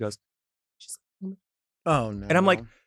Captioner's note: whispers indistinctly